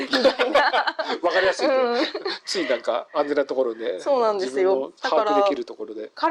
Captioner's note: laughs